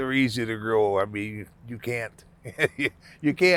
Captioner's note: laughing